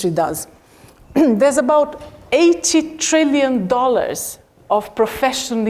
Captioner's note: cough